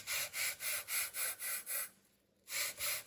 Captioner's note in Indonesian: terengah-engah